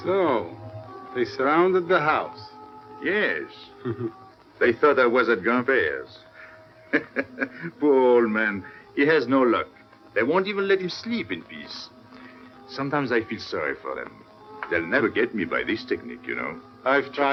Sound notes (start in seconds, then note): 6.3 laughs